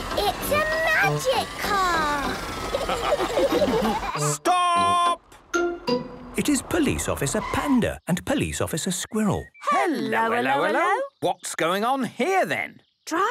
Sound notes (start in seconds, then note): 2.5 all laughing